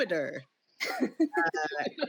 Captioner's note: all laugh